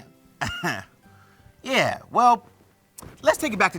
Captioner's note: laughs